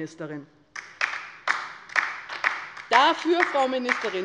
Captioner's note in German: Beifall bei der LINKEN